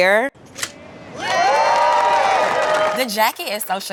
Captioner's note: cheering